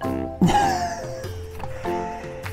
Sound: laughs

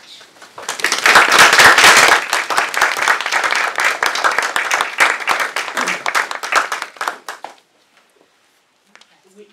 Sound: applause

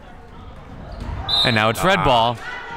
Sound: whistle

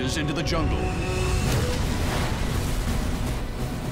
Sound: booming; triumphant music plays

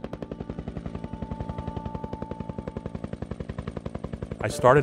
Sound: sounds of Helicopter and Music

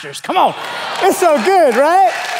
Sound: congregation applauding

